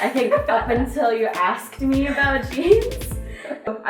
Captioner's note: laugh